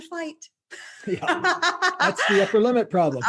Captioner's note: laughing